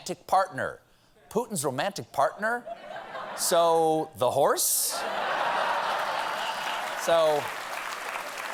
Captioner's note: applause; laughter